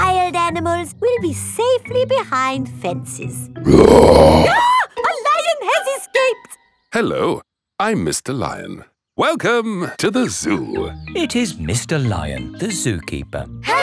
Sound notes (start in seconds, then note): 3.6 roars; 3.7 screams